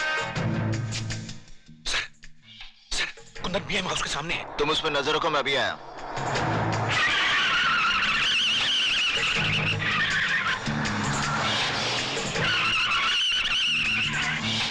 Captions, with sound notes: Kundan is opposite B.M. House.. Keep an eye on him, I'm coming. (Tires Screeching)